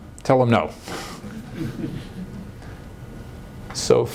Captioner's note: light laughter